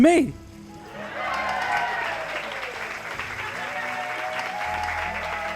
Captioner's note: audience cheering